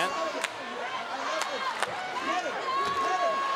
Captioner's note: crowd roars; Big E claps